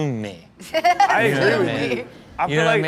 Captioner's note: laughs